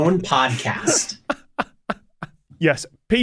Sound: laughs

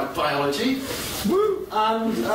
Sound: lone whoop

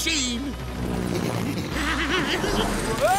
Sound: evil laugh

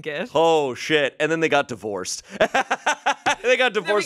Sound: laughs

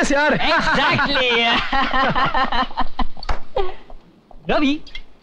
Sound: laughing

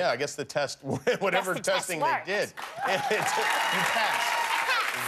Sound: cheers and applause

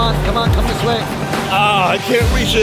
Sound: groans

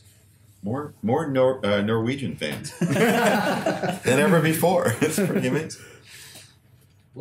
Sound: laughter

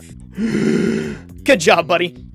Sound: gasp

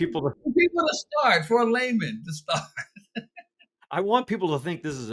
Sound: laughs

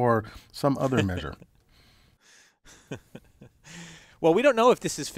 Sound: laugh

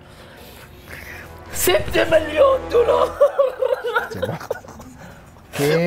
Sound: laughing

